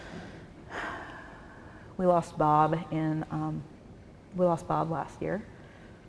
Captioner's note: sigh